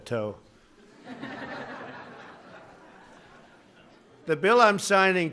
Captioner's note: laughter